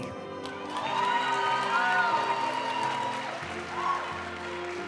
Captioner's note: audience cheering and applauding; graduation music